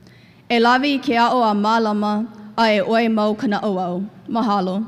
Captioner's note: speaks in Hawaiian